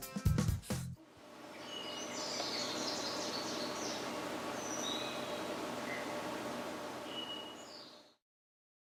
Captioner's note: birds Chirping